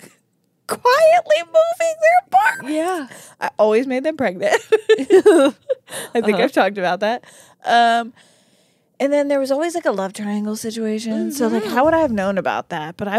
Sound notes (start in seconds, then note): 4.5 laugh